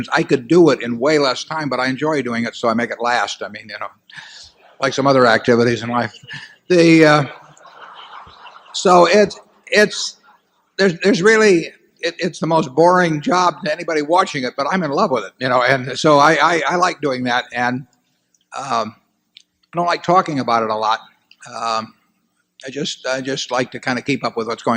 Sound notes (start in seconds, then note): 7.0 laughter